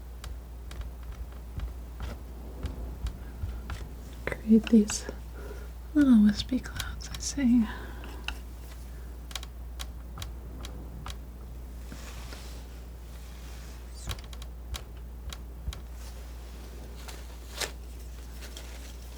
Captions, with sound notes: Create these little wispy clouds, I see. [tapping]